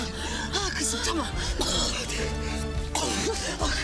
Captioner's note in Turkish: Öksürüyor